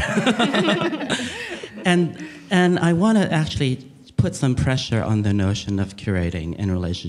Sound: laughing

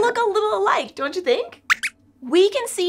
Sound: squeaks squeaks

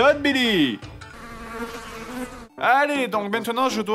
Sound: flies sound

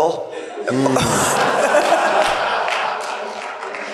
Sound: laughter

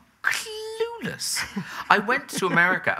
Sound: laughing

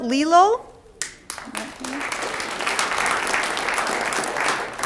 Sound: audience applauds

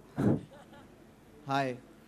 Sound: audience laughs

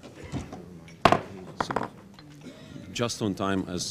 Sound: thud

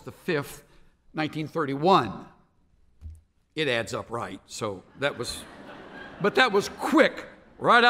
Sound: laughter

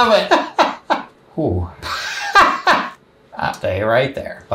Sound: laughs

